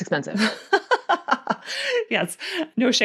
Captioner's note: laughs